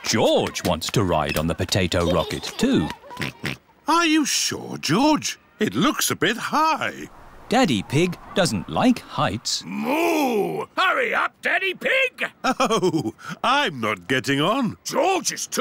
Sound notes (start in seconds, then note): 3.2 oinks; 12.3 chuckling